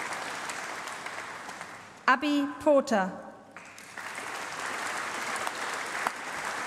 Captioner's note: applause